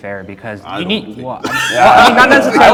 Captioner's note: laughter